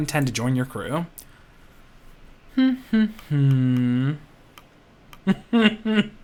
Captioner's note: humming